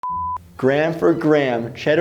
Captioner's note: beep